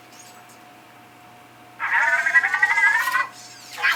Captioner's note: mechanical chirping